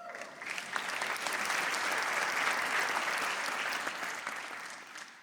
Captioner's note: audience applauds